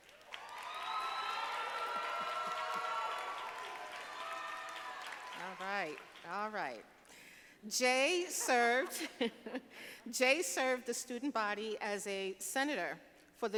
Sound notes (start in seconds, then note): 0.0 audience applauding; 8.4 laughing; 9.1 audience laughing